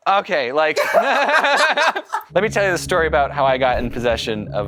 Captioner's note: laughter